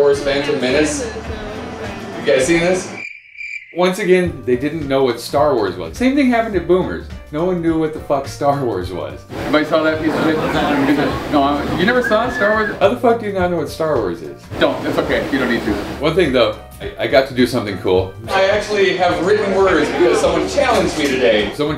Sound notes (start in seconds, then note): 2.9 crickets sound